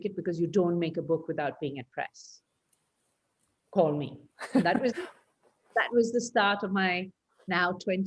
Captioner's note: laughs